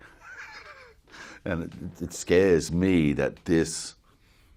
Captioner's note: chuckles